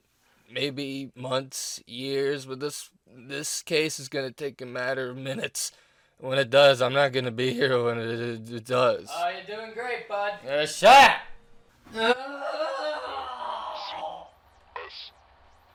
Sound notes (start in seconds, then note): 9.4 sarcastically; 12.0 screams in pathetic agony